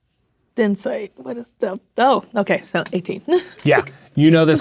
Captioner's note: laughs